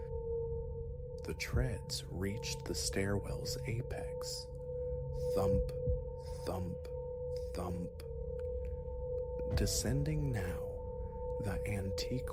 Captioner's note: thump... Thump... Thump